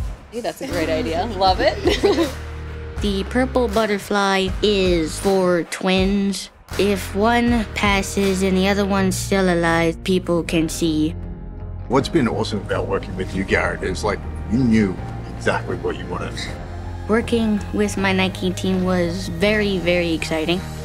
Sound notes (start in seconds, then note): 1.6 laughs